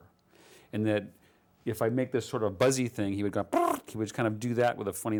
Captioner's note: makes Buzzing Sound